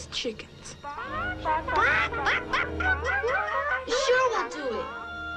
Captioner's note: boys squawking